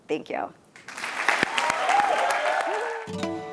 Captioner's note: applause